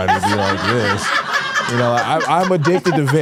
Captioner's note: hosts laughing